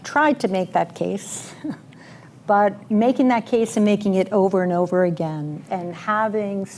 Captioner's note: laughs